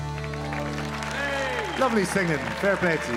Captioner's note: audience applauding